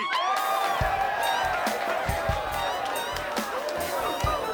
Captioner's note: people cheering